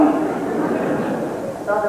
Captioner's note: laughter